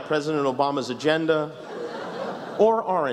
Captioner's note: laughs